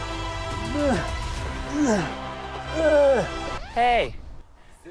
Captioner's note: intense music; grunts